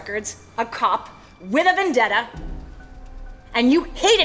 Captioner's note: none